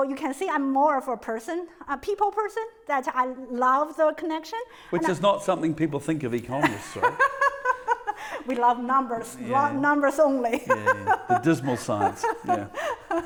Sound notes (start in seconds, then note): 6.6 laughing; 10.5 laughs